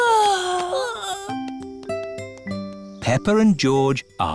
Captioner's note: peppa and george yawning